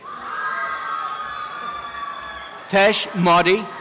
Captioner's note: applause and cheering